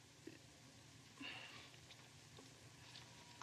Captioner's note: sighs